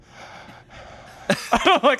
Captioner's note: breathing heavily